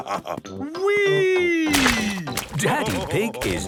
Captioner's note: splashes